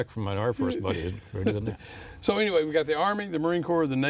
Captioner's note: laughing